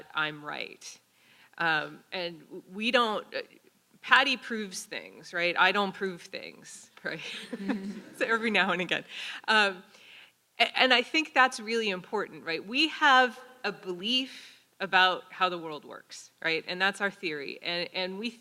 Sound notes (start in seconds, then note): 7.2 laugh